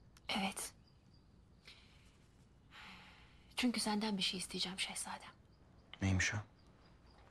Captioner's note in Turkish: none